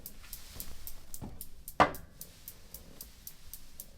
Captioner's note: pendulum swinging